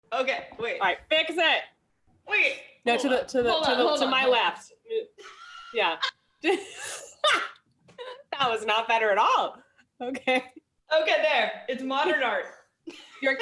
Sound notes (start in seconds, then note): 5.2 laughter